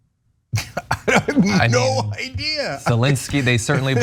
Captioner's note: laugh